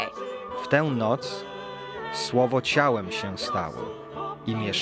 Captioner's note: speaking in Polish